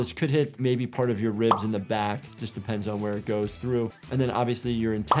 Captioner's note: none